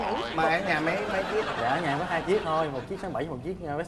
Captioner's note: laughing